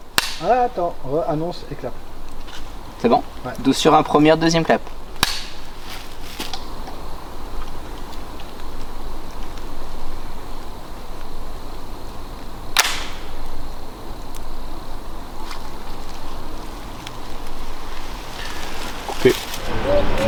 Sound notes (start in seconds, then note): 12.8 gun noise